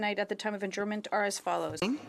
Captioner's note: speaking French